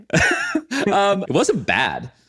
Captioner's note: laughs